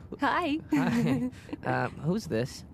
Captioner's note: giggles